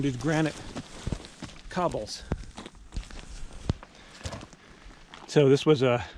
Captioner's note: gravel crunching; air whooshing